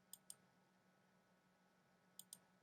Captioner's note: clicking sound